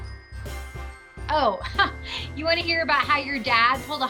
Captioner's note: laughs